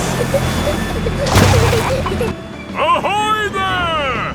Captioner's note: peppa and george giggling